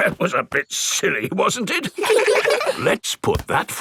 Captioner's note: in teddy's voice; in normal voice; kids laugh